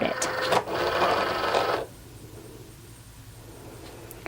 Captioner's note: Cricut whirring